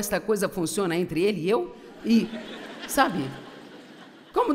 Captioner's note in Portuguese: audiência ri